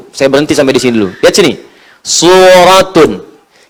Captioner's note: Reciting Al-Quran